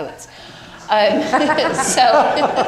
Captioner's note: crowd laughing